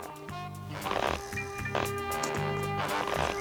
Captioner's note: creaking